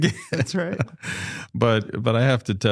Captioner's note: chuckles